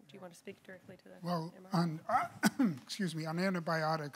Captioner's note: coughs